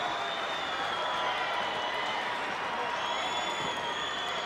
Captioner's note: crowd yelling